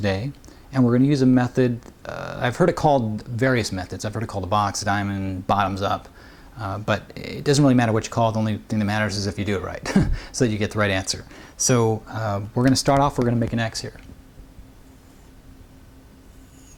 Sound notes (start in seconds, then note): 9.8 chuckles